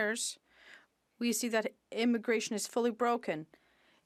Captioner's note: speaking French